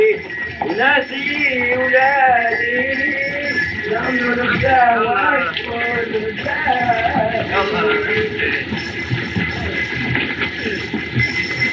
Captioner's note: men Chattering In Native Language